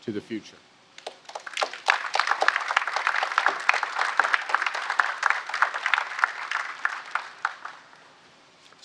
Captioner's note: applause